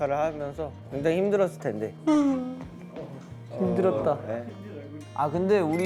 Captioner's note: crying